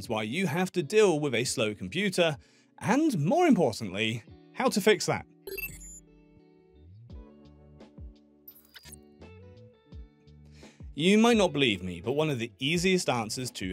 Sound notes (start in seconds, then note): 5.4 melodious music; 5.5 beeping